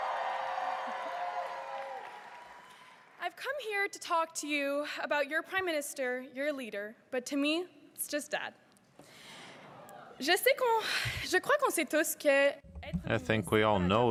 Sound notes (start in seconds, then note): 4.2 cheering and applause